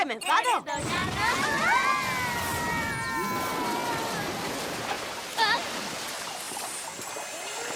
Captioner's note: screaming